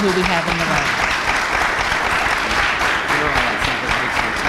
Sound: audience applauds

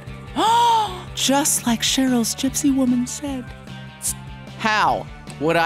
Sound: gasps

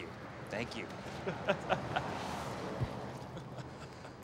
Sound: laughs

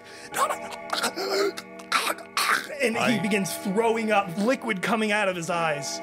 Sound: awful choking sounds

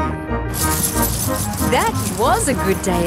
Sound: coins jingling

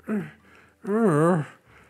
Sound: Growler Groans

